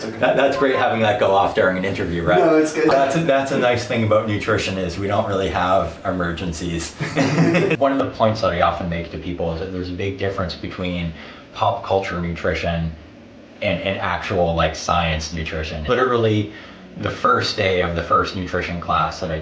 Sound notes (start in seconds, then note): 7.3 laughs